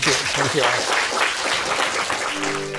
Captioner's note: applause